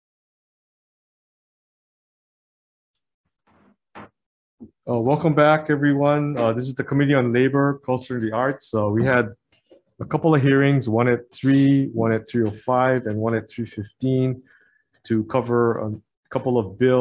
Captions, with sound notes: (gavel banging) Welcome back everyone. This is the Committee on Labor Culture and the Arts. So we had a couple of hearings, one at three, one at 3:05 and one at 3:15 to cover couple of bills.